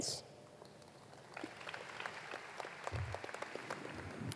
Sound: applause

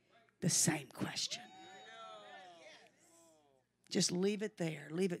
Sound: congregation cheers

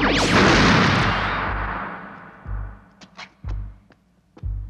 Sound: explosion booms

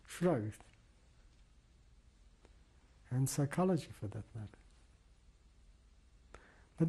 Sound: pauses for 3 seconds

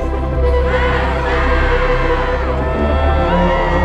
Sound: cheering

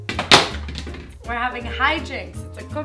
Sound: clattering bowl

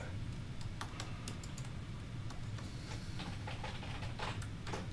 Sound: keyboard clattering

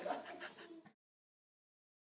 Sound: laughter

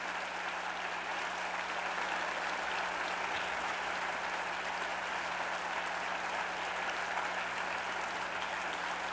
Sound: applause

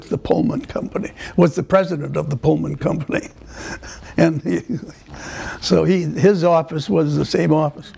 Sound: laughter

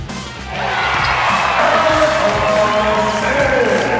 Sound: energetic music; crowd cheers

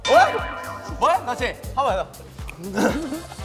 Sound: kekekekeke

